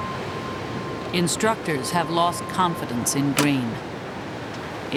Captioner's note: voiceover